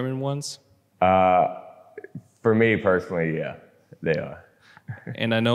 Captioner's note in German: lacht